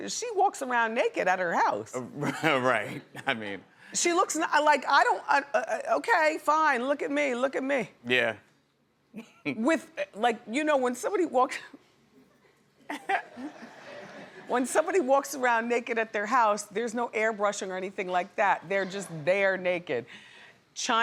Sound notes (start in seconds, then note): 12.9 laughs